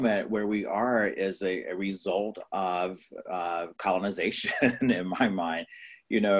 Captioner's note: laughs